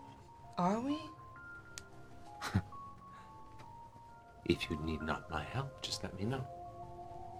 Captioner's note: chuckles